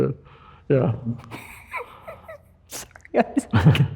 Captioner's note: laughs